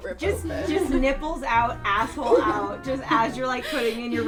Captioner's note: laughs